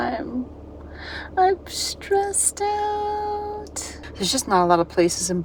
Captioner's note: high pitched squeal